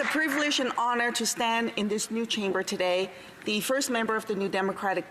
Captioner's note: applause